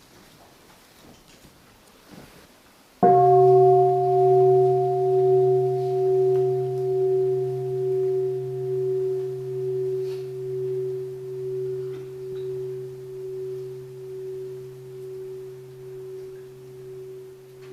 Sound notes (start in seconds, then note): 3.0 the sound of the bell